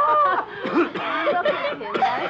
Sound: chuckles; Hans coughing

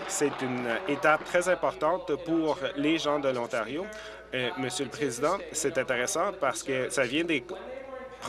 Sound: applause

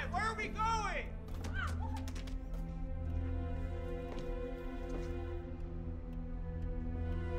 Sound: suspenseful music; clock ticking

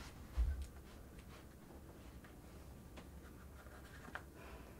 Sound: shuffling footsteps

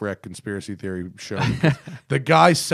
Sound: laughter

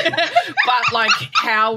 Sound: laughing

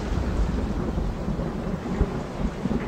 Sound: raining

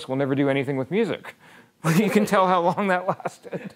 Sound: laughing

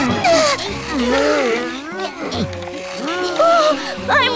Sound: Turtles grunt

